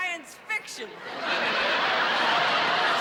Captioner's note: laughter